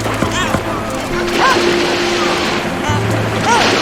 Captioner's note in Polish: plusk wody